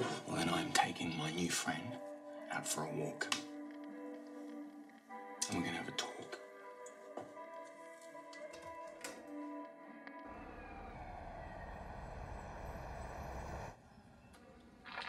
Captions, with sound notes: Well, I'm taking my new friend out for a walk. And we're gonna have a talk. (distant siren wails)